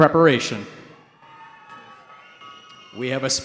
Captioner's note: cheering